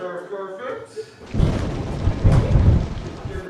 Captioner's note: thunder cracks and rumbles